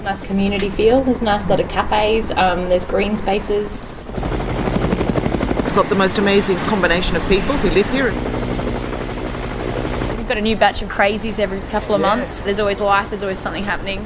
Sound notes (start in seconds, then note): 3.6 helicopter; 8.2 helicopter